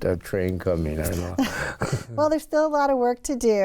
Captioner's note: chuckling